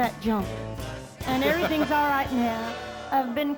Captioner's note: chuckles